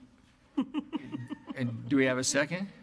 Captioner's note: laughing